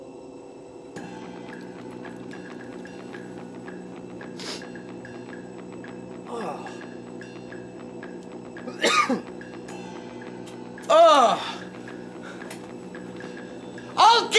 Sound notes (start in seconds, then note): 1.1 light dramatic music; 4.4 Reese sniffs; 6.2 Reese groans; 8.6 Reese coughs